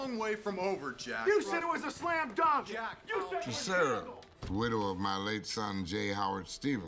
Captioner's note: shouting Continues